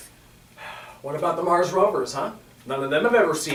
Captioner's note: Sampson sighs